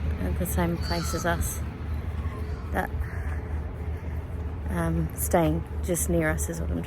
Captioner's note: loud magpie call